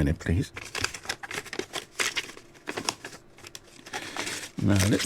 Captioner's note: sound of papers shuffled